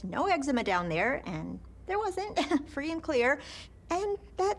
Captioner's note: chuckles